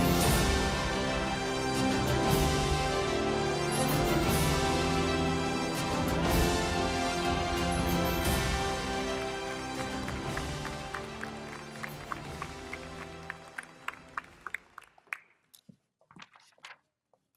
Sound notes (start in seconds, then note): 9.7 audience applauding; 13.9 uplifting music fades